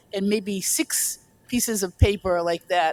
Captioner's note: none